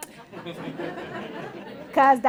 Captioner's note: laughter